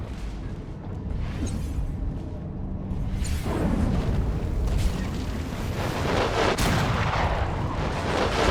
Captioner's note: explosion